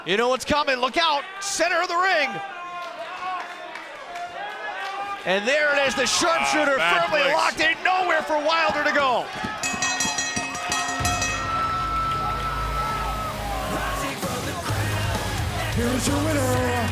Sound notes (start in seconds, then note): 12.0 bell ringing